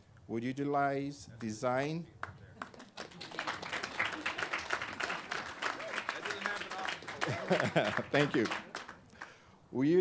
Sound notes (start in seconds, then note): 2.5 clapping